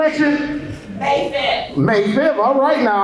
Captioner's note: crowd